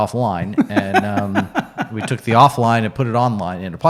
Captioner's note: laughs